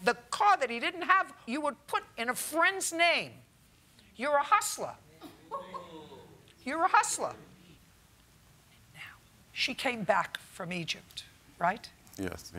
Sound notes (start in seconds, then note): 5.4 laughter